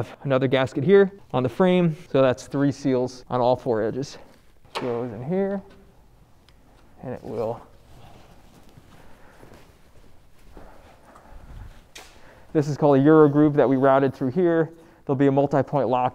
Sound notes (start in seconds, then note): 4.7 clicks